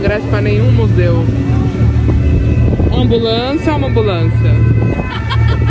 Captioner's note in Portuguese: sirenes ao fundo